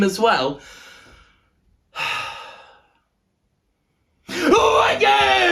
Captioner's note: sigh